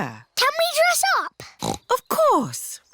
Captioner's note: snorts